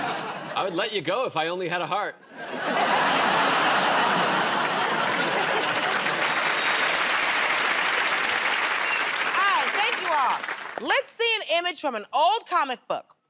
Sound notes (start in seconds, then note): 2.2 laughter; 5.7 applause